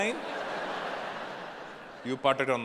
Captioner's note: audience laughing